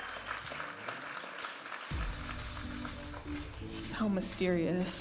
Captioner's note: audience applauding